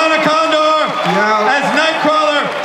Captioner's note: audience cheers